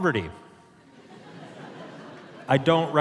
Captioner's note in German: Publikum lacht